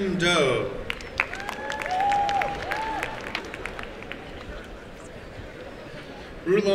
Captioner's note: applause and cheering